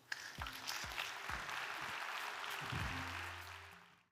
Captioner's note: audience clapping